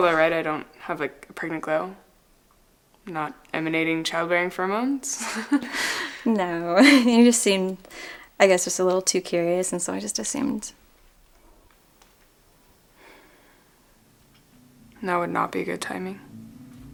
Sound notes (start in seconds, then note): 6.8 laughs